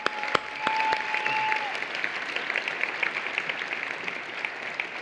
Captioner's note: applause